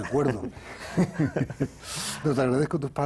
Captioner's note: ríe